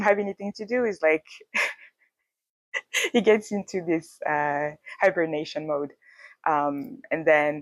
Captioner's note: laughs